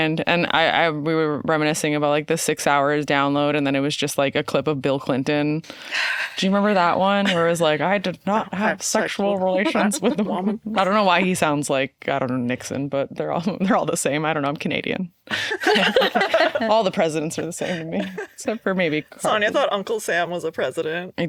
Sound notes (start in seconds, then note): 15.3 all laughing